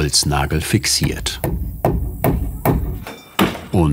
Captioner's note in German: Klopfen